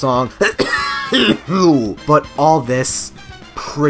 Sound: coughs hard

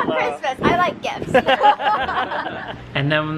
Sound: laughter

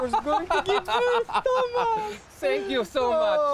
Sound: they laugh

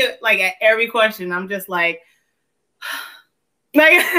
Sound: sighs

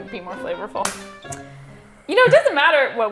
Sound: hands clap

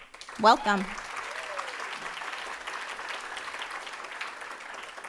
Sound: audience applauding

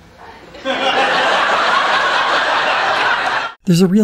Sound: audience laughter

